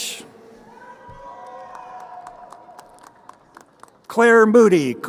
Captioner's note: crowd cheering